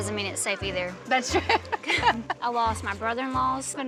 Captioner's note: chuckles